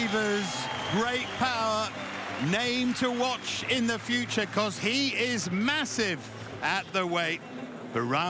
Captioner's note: cheers and applause